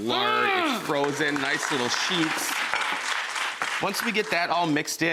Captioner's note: audience applauds